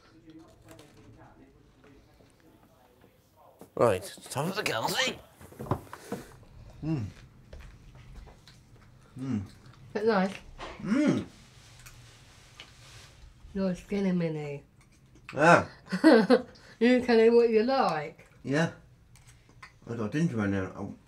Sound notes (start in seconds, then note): 7.5 chewing